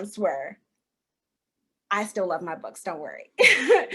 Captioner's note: chuckle